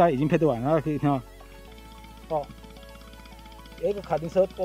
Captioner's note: engine sound